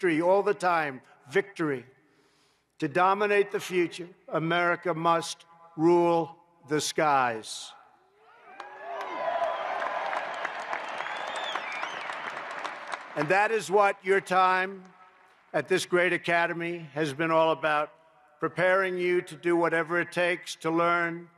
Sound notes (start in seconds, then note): 8.5 applause